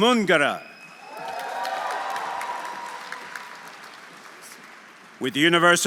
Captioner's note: audience cheering; audience applauding